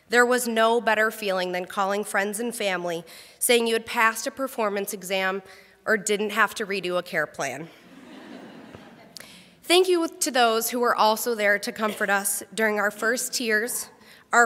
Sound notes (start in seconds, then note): 7.8 crowd laughs